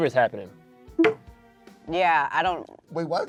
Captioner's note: bell bleeps